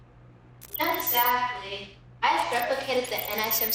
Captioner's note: computer screen beeping